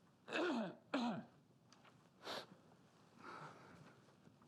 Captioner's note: clearing throat